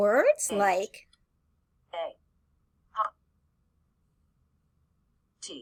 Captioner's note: computer voice